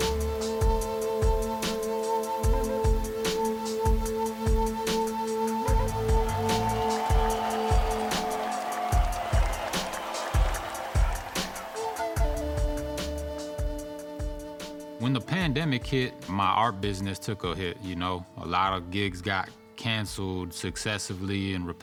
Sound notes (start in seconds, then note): 5.6 audience cheering